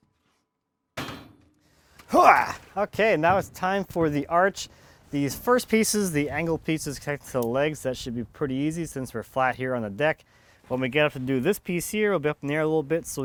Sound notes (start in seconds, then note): 1.0 clanking; 2.1 grunting